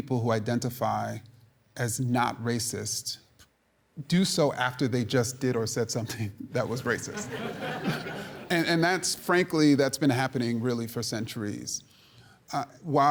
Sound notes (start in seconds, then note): 6.6 audience laughing